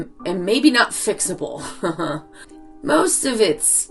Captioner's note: laughs